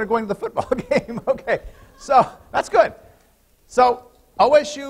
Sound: laughter

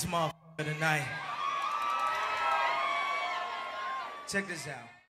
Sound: crowd cheers

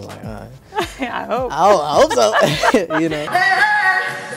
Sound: laughs

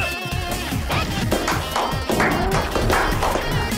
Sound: slow claps

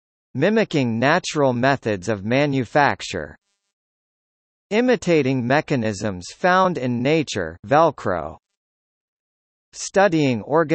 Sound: velcro

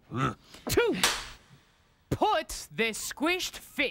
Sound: cracks pointer

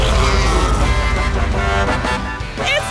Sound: honking

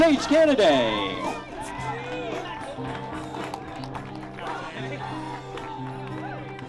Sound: gentle music; spectators applauding

